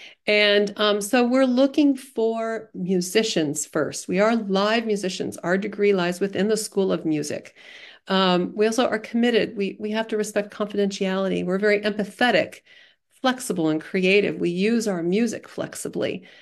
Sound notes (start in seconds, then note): none